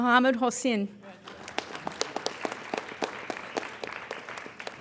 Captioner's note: applauding